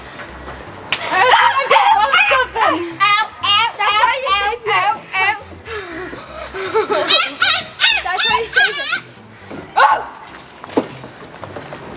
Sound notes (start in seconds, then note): 1.1 kids shouting and exclaiming loudly; 6.8 kids mimicking animal noises